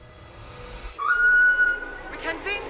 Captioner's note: intense music; Mackenzie screaming